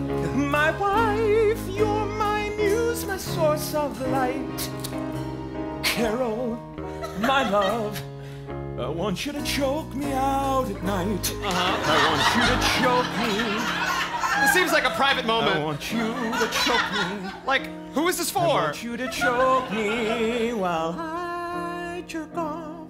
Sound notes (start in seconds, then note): 11.3 speaking; 11.8 singing; 14.2 speaking; 15.3 singing; 17.4 speaking